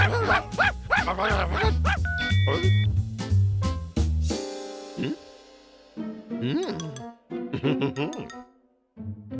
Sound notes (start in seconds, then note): 0.0 barking; 2.0 phone beeps